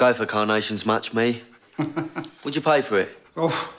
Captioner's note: laughs